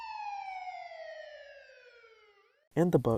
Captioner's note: police sirens; sirens fade